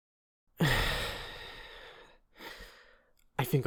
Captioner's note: long sigh